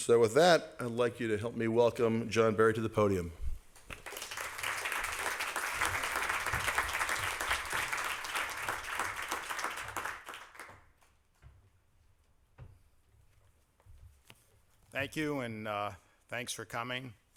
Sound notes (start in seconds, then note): 3.8 applause